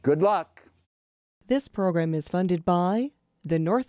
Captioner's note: voiceover